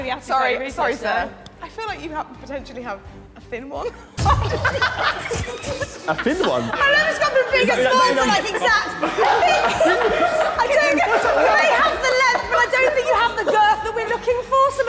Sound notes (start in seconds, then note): 9.5 all laughing